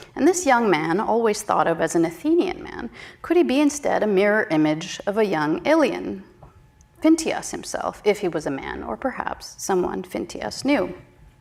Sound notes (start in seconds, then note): none